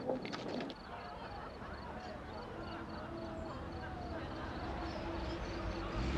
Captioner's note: people chatting and laughing